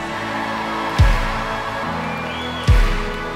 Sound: cheering

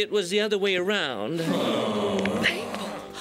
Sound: audience groaning

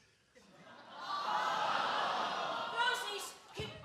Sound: audience groans

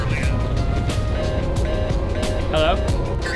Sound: busy signal

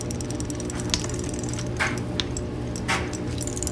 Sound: toy clicking

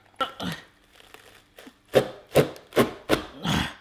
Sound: grunting

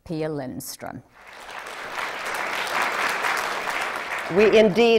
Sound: applause

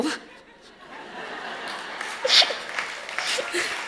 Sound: audience laughs and applauds

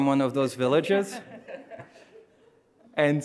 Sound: audience chuckling

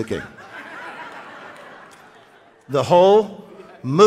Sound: audience laughing

